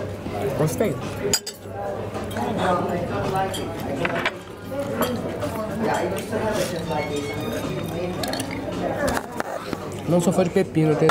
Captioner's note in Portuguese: ambiência de restaurante